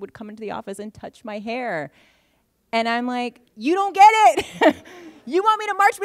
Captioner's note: laughter